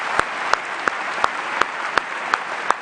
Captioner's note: applause